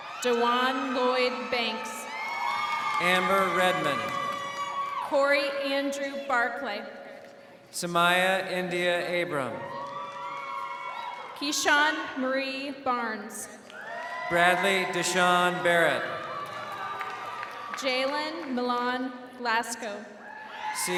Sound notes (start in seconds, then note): 9.1 crowd cheering